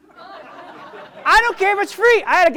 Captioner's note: audience laughs